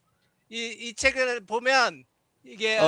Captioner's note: non-english speech